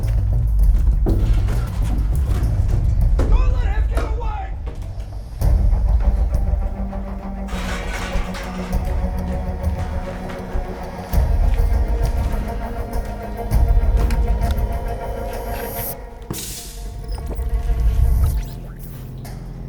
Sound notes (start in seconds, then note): 0.2 plywood scraping; 6.9 pipes rattling; 15.5 case latches; 16.2 air releasing; 16.4 tech noises from within